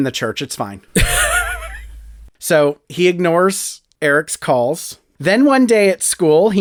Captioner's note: laugh